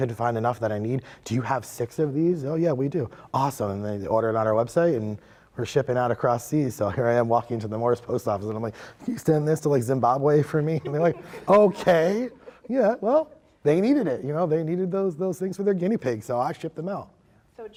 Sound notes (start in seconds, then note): 10.7 laughs